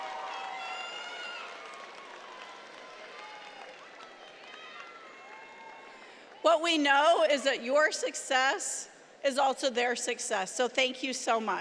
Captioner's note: cheering and applause